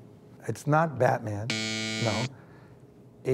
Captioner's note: buzzer buzzes